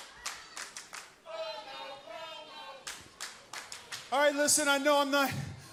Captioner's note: crowd cheering